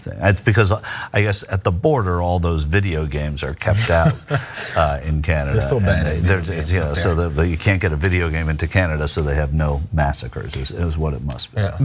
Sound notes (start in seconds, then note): 3.6 laugh